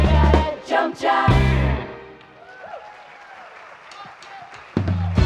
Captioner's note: applause